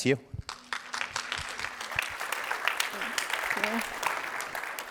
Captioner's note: applause